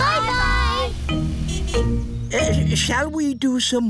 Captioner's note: horn honks